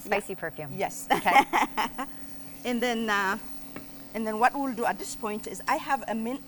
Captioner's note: laughs